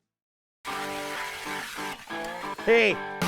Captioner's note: motor whirring